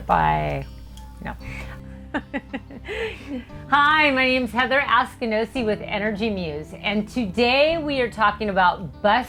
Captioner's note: laugh